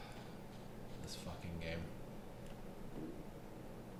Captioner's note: sigh